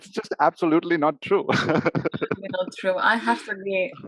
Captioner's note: laughs